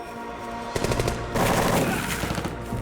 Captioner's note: machine gun firing